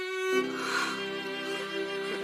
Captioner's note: gasp